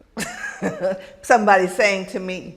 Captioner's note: laughs